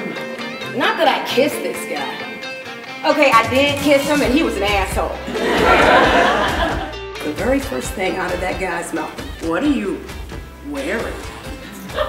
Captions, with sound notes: Not that I kissed this guy. Okay, I did kiss him And he was an asshole. [Audience laughs] The very first thing out of that guy's mouth: "What are you wearing?"